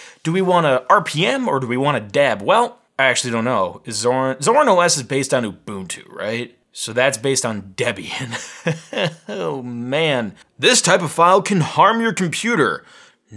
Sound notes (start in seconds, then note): 8.1 laughing